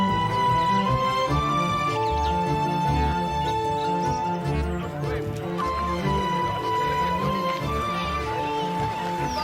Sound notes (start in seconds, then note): 7.6 indistinct chattering